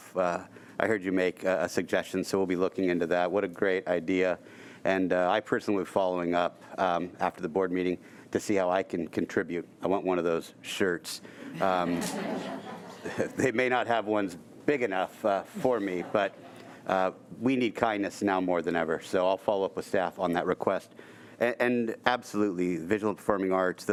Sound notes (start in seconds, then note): 11.5 audience giggling